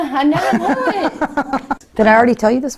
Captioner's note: laughs